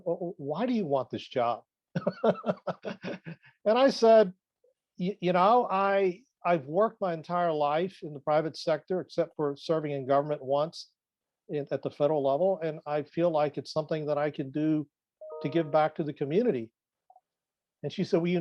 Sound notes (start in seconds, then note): 2.0 laughs